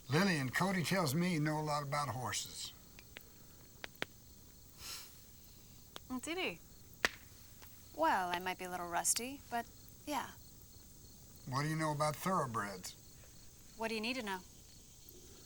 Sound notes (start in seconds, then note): none